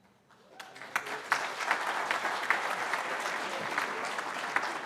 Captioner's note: applause